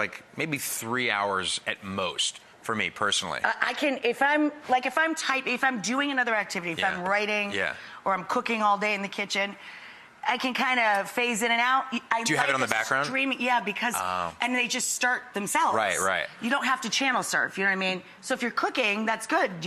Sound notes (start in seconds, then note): none